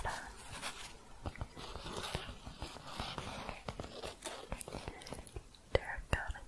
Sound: scratching and tapping

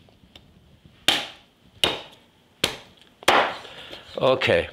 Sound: knife pounding

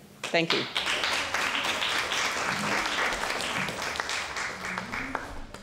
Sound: audience clapping

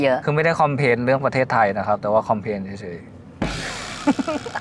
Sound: laugh

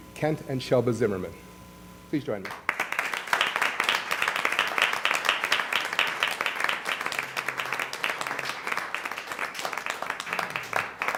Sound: applause

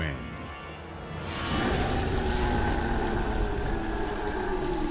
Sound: roaring

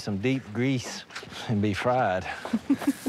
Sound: laughs

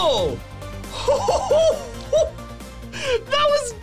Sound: laughs

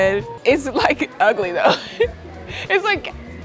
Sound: laughing

